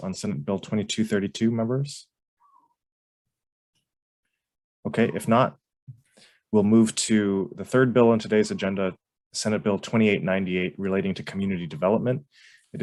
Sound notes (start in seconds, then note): none